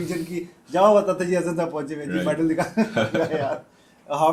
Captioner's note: laughter